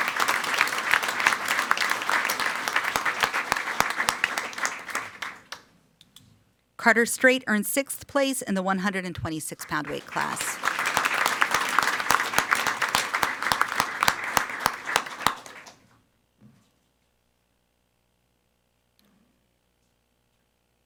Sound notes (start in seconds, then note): 0.0 everyone applauding; 11.4 everyone applauding